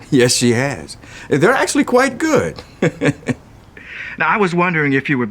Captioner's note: chuckles